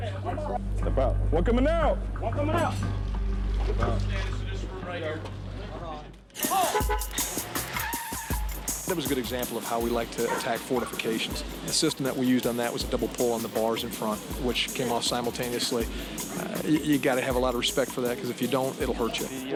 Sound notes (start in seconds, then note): 6.4 horn honking